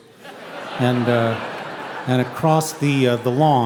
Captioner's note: audience laughing